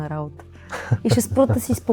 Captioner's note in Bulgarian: смях